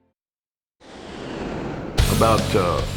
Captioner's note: whooshing sound plays